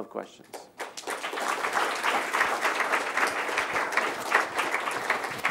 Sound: audience applauding

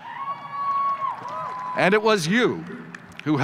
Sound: audience cheers

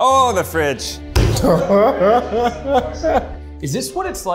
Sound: laughing

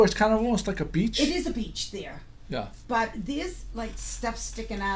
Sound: voiceover

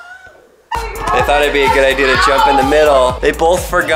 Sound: screaming

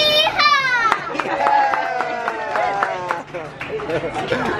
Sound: applause

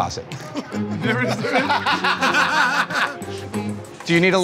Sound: laughter

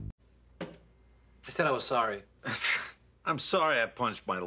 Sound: pshs

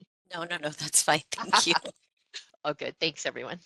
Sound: laughing

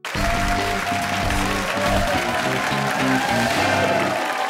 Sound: cheers and applause

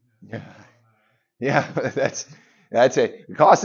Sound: laughs

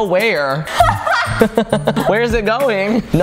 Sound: chuckles; laughs

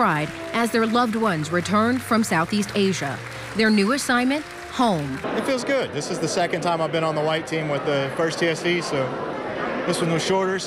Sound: applause

